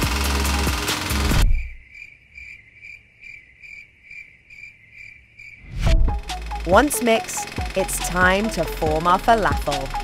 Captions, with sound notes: (crickets) Once mixed, it's time to form our falafel.